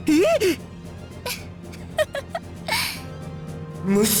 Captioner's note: mischievous giggle